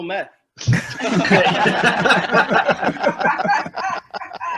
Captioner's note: laughter